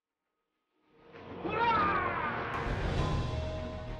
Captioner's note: yells